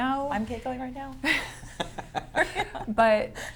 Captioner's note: laughter